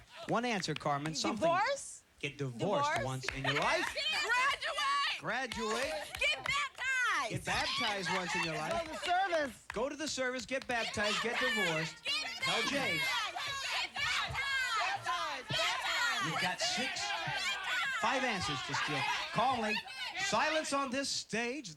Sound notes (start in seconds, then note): 14.4 yelling